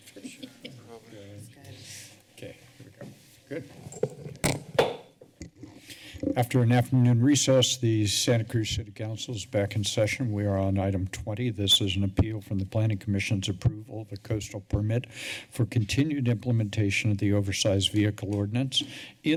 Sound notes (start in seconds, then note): 4.4 soft thud; 5.7 breaths deeply